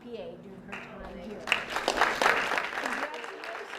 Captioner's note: applause